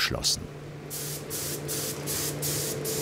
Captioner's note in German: Sprühgeräusch